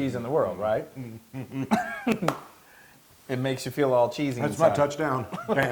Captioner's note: laugh; laugh